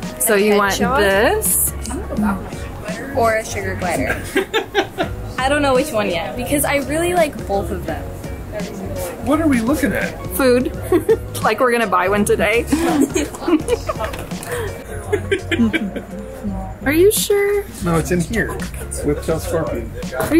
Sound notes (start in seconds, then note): 4.0 laughs; 12.6 laughing